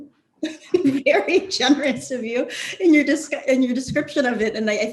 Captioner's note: laughs